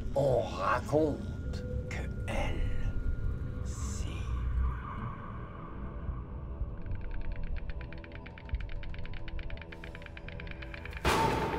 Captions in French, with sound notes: on raconte que Elle, si... (musique inquiétante) (caquètements de cigognes)